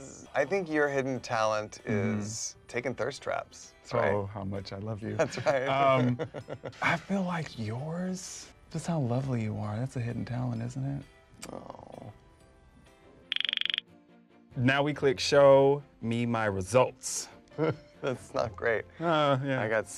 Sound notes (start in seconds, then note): 5.2 Michael laughs; 13.2 upbeat bright music begins; 17.6 Michael laughs